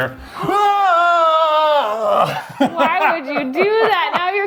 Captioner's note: shouts